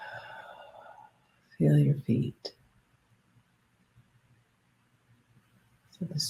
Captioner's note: exhales